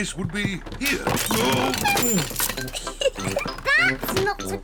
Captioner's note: oinks; giggles